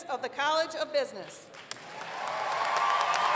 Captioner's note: applause